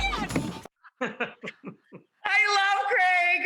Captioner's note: laughing